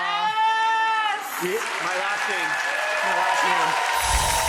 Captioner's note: audience cheering